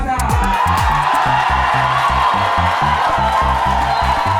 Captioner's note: cheers and applause